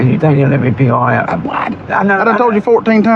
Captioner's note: mumutttters